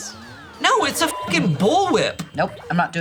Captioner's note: beep